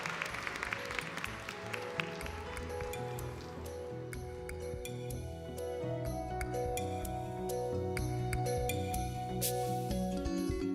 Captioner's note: clapping